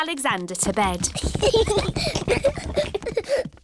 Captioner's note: children giggling